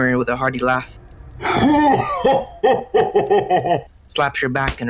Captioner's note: Giga chad laugh